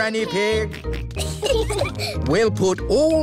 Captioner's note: peppa and george giggling